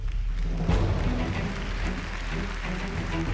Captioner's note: applause